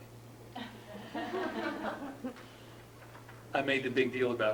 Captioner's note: audience laughing